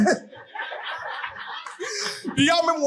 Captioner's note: audience laughing